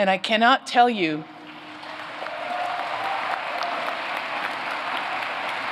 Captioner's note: applause